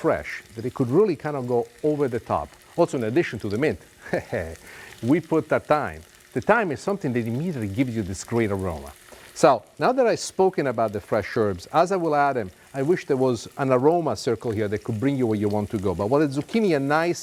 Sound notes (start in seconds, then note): 4.0 chuckles